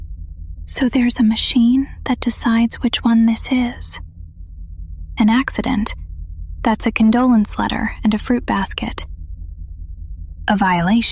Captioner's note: whispers